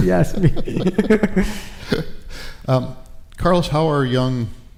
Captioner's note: laughter